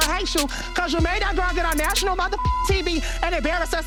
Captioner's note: beep